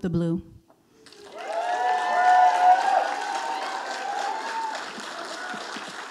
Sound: audience applauding

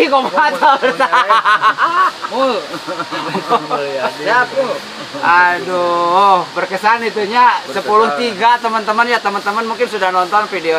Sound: laughter

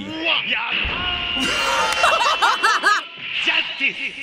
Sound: shouting in Japanese; both laughing; speaks Japanese

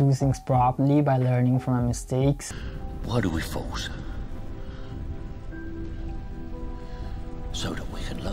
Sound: clip from movie "Batman Begins" in deep voice

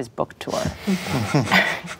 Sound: laughing

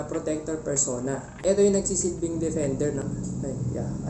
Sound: motorcycle passing

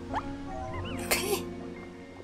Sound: laugh

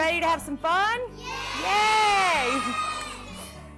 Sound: children cheering

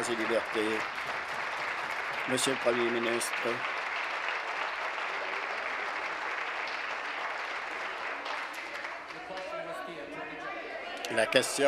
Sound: applause

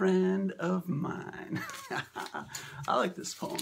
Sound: laugh

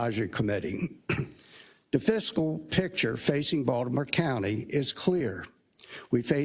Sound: cough

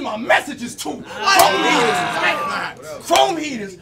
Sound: audience yells

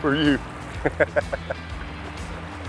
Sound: laughs

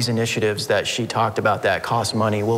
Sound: none

